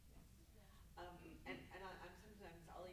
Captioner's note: muttering